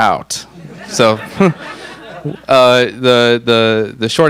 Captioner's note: all laugh